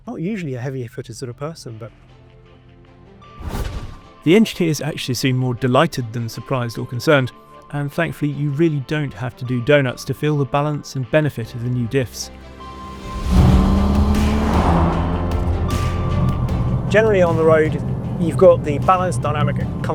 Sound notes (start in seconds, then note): 3.4 transition whooshes; 12.3 upbeat music continues; 12.5 vehicle revs